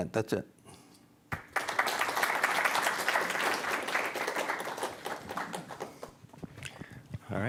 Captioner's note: applause